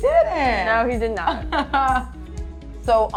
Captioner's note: laughing